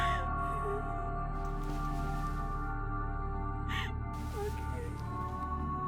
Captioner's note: ominous music; weeping